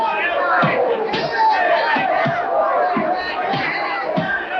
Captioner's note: crowd cheers